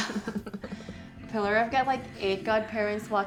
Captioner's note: Pillar laughing